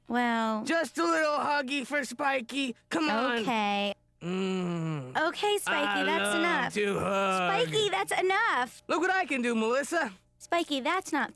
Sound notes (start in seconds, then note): 4.2 moans